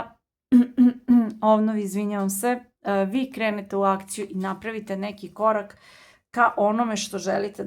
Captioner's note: coughs